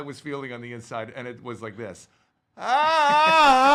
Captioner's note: yells